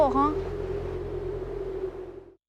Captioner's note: wind howling